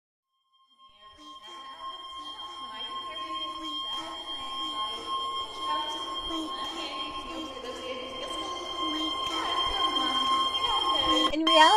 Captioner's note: long, pitched Ringing; distorted Voice before it cuts; voice Echoing; analog Alarm Clock Beeping before it shuts off